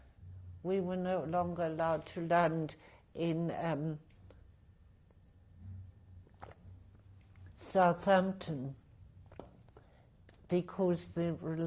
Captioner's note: drinks